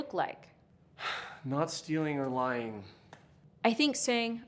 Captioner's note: sighs